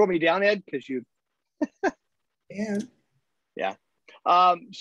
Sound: laughter

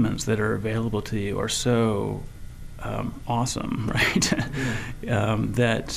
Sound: chuckling

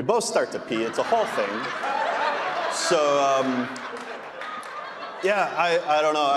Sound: audience laughing

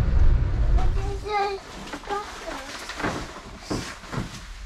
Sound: babbling

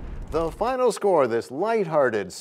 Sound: crashing sound

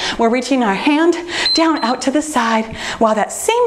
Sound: timer beeps

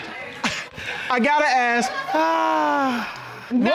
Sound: chuckles

